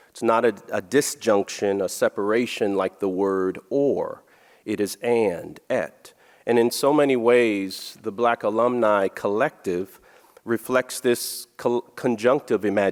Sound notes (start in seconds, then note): none